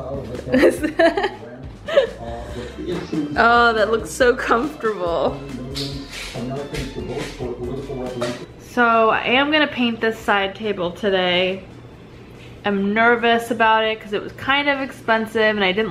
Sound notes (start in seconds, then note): 1.8 laughing